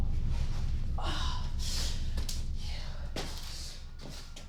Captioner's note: groans